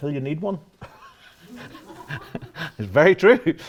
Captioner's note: laughter